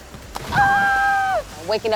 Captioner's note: exclaims in excitement